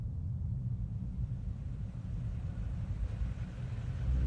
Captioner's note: vehicle approaching